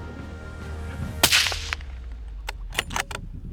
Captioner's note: dramatic music; rifle firing; rifle cocking